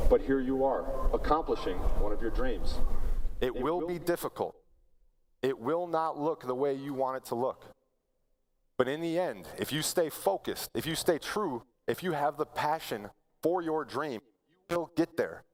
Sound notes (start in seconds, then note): none